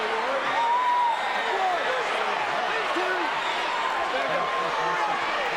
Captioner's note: crowd cheering